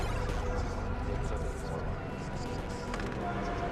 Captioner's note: indistinct chatter